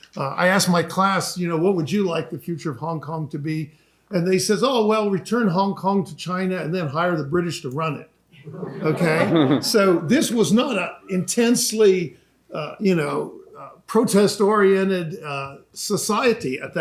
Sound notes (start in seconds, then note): 8.4 chuckling